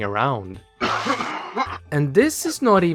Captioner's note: puke sound